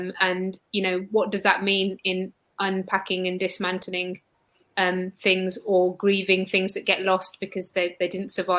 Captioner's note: erm